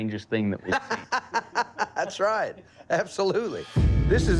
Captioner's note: laughs